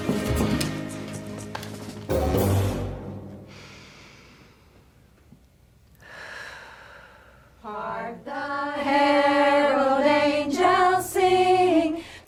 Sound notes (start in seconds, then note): 0.0 quirky music; 3.4 inhales, then exhales